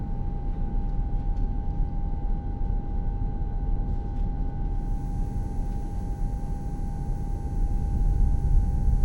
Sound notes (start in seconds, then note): 4.9 electricity buzzing